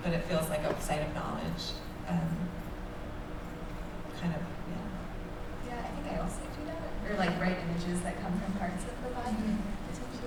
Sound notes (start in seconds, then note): none